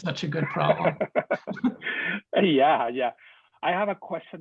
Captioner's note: laughing